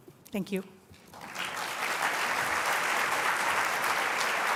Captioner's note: applause